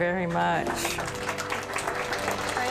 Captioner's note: applause